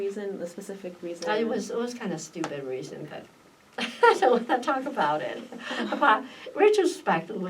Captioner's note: laughs